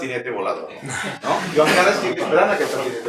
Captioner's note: laughter